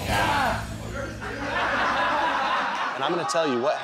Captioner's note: laughter